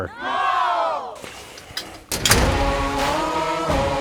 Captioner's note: crowd; door hissing; handle clunking; upbeat metal rock music